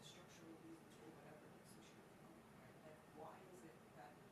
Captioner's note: speaks faintly